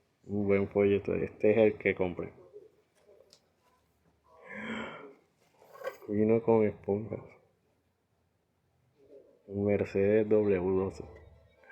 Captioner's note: gasp sound